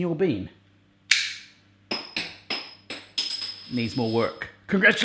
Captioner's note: click, clattering